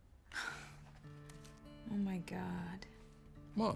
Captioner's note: gentle music; Kate chuckles